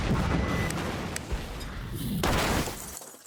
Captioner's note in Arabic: تحطيم الحطام